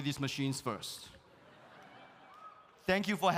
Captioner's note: audience laughs